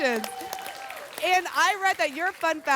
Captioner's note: applause and cheering